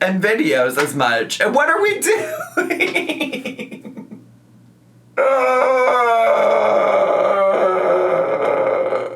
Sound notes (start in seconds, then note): 2.1 laughs; 5.2 groans